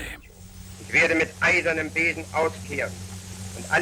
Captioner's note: goering speaking german